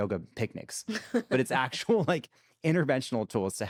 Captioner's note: chuckles